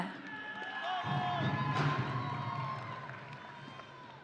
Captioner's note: audience cheering